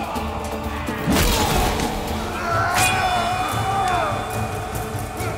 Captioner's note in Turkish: Savaş sesleri